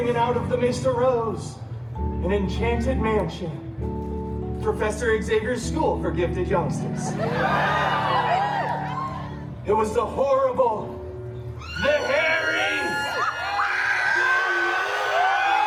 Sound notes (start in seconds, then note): 7.2 guests cheering